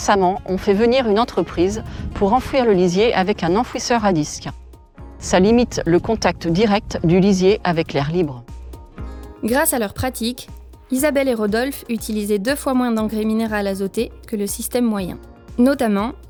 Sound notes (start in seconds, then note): 9.7 voice-over